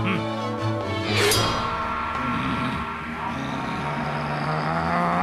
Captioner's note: gasps, growls